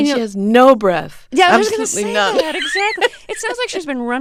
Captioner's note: soundbite of laughter